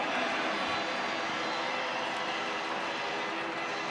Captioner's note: cheering